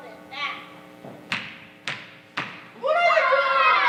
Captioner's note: Polyphemus stomping